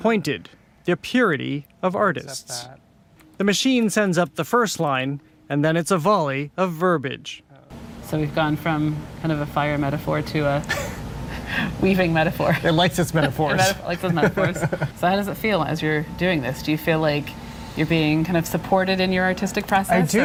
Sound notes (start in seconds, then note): 10.6 both chuckle; 13.9 chuckling